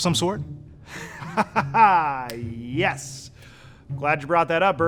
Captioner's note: laughing